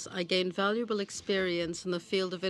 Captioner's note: speaking French